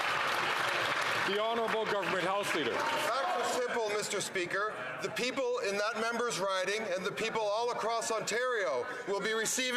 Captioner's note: some Applause